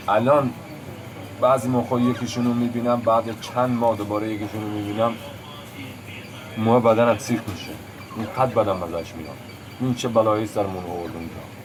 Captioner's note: foreign language